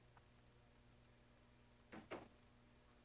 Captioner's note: door closes